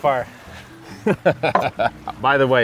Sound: laughing

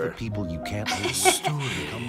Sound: laughs

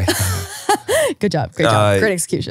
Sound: laughing

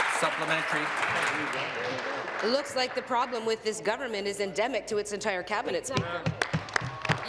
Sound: applause

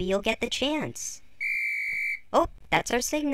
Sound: guard's whistle blows

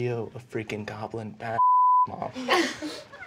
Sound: beeping

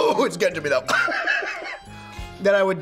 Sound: laughs

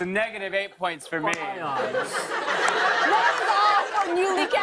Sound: laughter

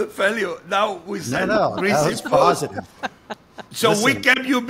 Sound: laughing

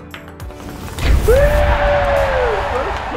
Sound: ball clacks; thwack and cheers

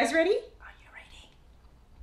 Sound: whispers

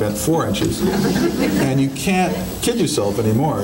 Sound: audience laughing

